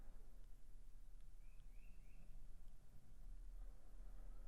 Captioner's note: bird chirping